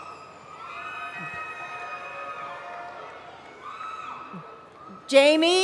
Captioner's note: cheering